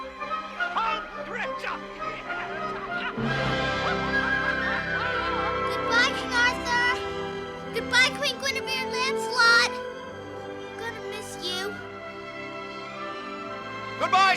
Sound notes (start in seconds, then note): 6.7 laughing